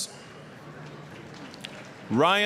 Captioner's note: applause